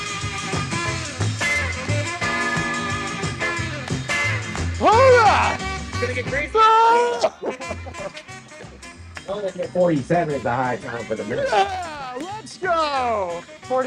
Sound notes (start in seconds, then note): 7.0 laughing; 8.0 hands clapping